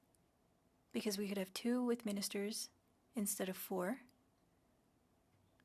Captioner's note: speaking French